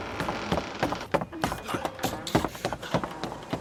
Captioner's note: thumping and moaning; running footsteps